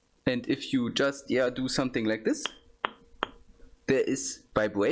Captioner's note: knocks on the bottle